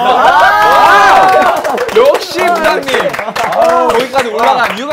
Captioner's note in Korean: 부장님의 의견에 쏟아지는 박수갈채